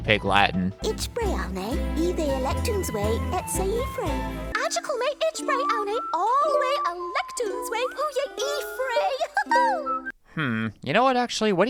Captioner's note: speaking Pig Latin